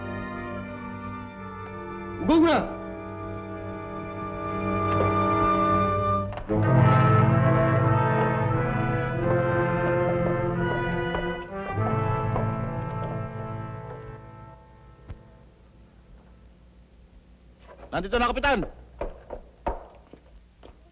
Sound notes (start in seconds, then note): 2.1 non-english; 6.2 chilling music; 17.6 speaking filipino